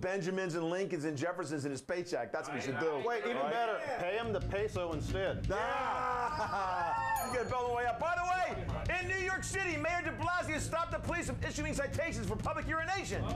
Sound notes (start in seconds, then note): 6.0 laughter; 7.1 bell rings